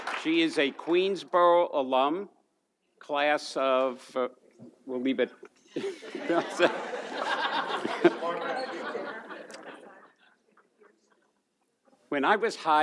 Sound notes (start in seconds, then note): 5.7 laughs; 5.8 audience laughs